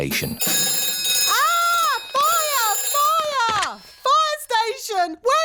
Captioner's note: rings